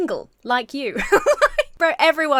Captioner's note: laughs